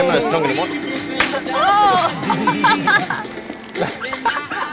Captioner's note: pop; laughter